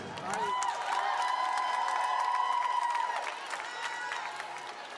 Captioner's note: audience applauding